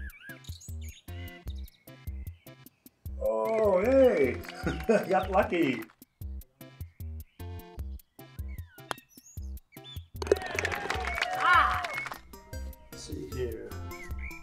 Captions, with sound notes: - Oh, hey. (chuckles) Got lucky. (applause) - (yells triumphantly) - Let's see here.